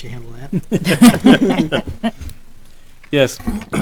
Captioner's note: laughing